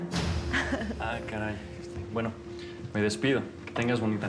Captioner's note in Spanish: Risas